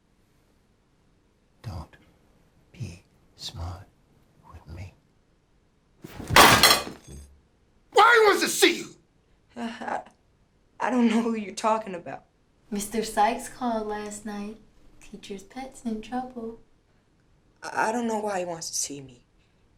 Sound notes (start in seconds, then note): 6.0 loud clank